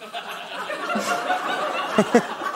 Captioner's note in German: Gelächter